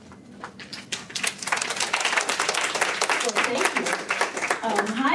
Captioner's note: applause